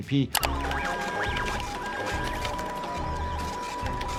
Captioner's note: machines beeping